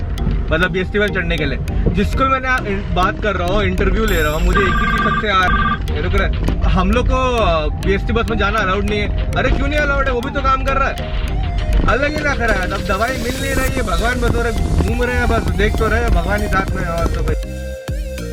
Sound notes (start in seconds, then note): 4.0 phone ring